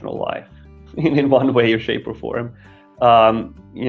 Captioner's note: laughing